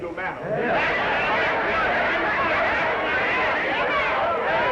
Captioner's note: crowd yelling